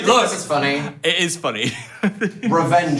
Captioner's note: laughing